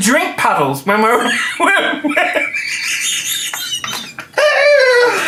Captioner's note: laughing